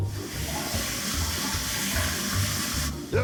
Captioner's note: birds chirping; air hissing